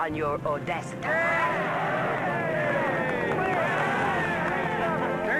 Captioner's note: cheering